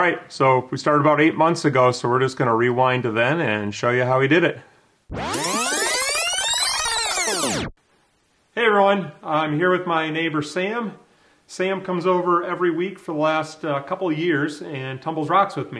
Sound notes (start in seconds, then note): 5.1 rewind noise